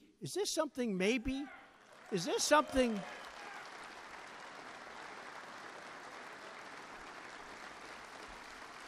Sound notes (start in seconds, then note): 1.8 applause